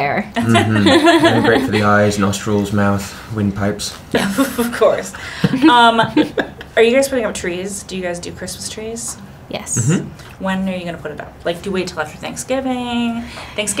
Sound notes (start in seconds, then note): 5.2 laughing